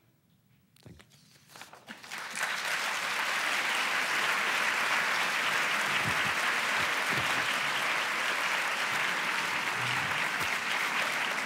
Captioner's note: applause